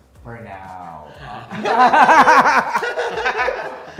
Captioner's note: laughing